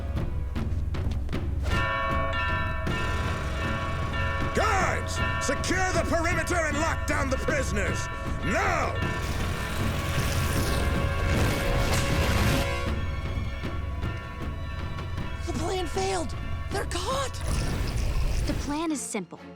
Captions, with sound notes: [dinging] Guards! Secure the perimeter and lock down the prisoners! Now! The plan failed. They're caught. The plan is simple.